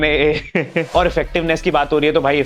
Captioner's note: laughing